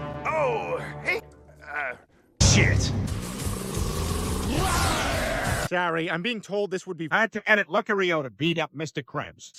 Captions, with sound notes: Oh....Hey!... Uh... Sh*t [Lucario Growls] [Lucario Roars] Peter:Sorry I'm Being Told This Would Be Hard To Edit Lucario To Beat Up Mr.Krabs